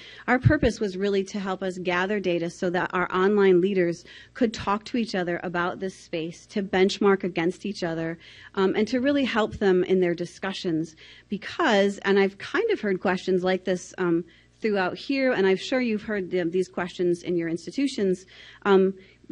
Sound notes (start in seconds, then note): none